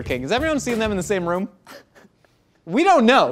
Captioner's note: laughs